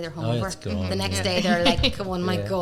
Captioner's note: laughter